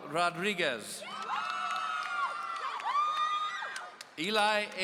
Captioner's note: audience cheering